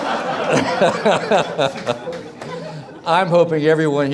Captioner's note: everyone laughs